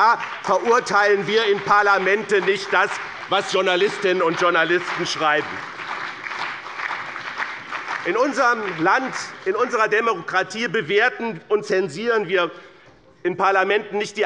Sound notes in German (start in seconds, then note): 6.0 Beifall bei BÜNDNIS 90/DIE GRÜNEN, der CDU, der SPD und der FDP